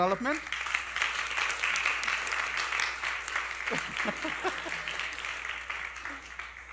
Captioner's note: applause